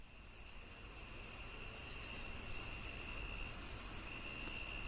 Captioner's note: crickets chirping